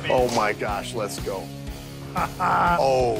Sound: laughs

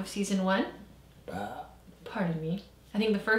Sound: burps

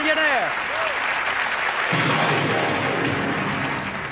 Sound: applauding

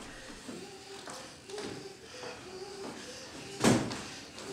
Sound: heavy breathing

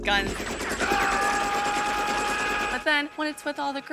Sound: gun firing

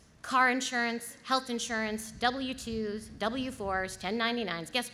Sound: none

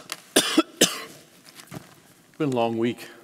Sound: coughing

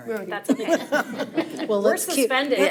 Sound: board members laugh

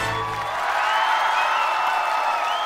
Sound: crowd cheering

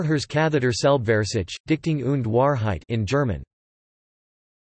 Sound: in German

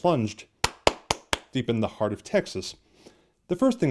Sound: clap clap clap clap

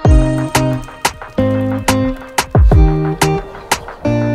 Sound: fire raging and crackling; lively upbeat music

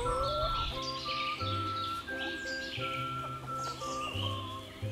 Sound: birds sing, owl hoots quietly

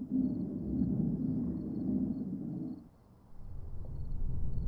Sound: ominous rumbling

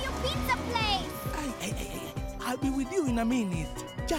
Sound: chuckling

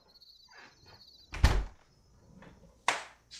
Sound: door closes

